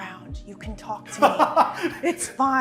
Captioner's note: laughing